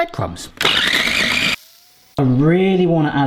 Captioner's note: food processor whirring